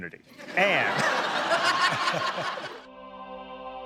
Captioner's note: laughter